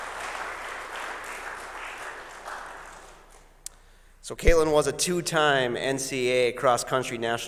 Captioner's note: applause